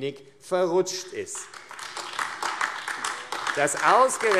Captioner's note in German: Beifall AfD